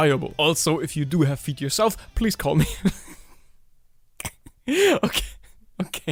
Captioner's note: chuckles